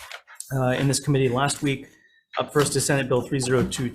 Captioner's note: none